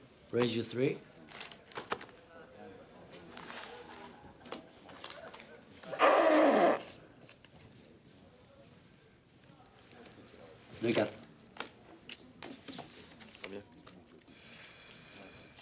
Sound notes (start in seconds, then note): 5.9 George blowing nose